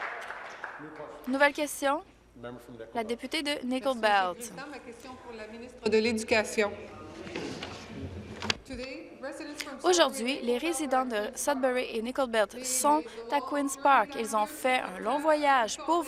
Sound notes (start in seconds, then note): 0.0 applause; 7.6 speaking in french